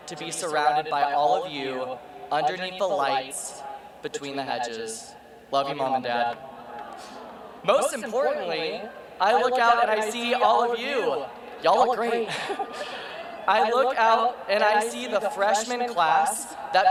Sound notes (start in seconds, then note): 12.0 laughs